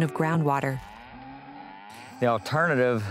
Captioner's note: cattle mooing